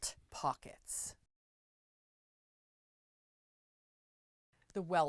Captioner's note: no Sound Present